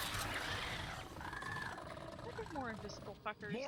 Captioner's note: growling noises